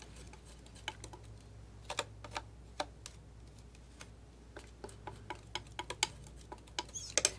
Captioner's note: scratching